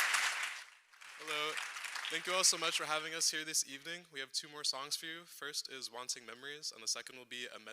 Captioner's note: cheers and applause